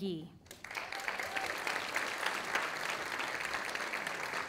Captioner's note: audience applauding